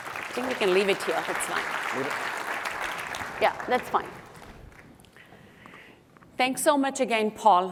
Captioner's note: applause